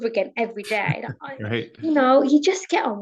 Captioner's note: chuckles